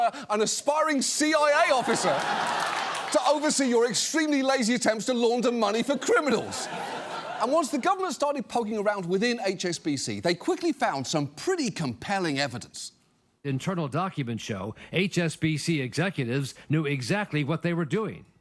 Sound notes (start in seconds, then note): 1.6 audience laughs